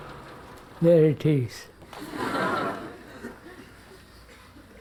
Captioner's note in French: Rires